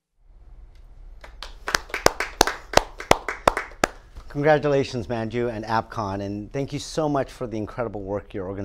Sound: applause

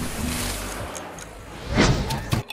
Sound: clock clicks; ice clinks; muddler thumps

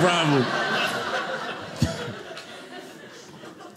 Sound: audience laughing

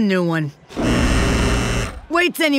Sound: buzzing

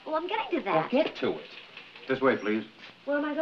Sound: none

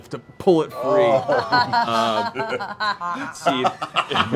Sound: laughter

